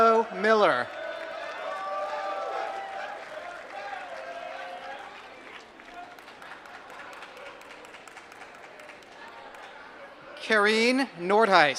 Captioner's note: applause